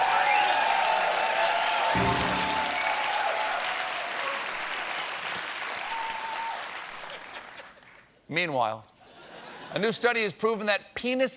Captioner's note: applause